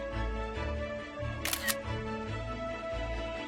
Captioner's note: camera shutter sound